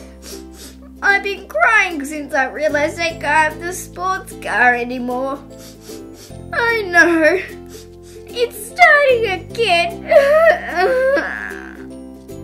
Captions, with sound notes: (Sniff, sniff) I've been crying since I realised I can't have the sports car anymore (Sniff, sniff, sniff) Oh no... (Sniff, sniff) It's starting again (Sob, sob)